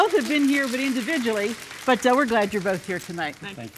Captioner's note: audience applauds